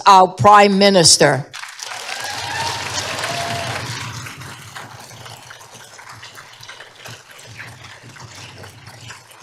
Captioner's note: applause